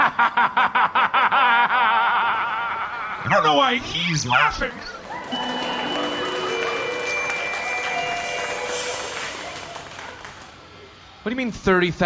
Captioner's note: evil laughter; audience applauds, transition music